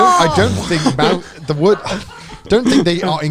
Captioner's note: breathing heavily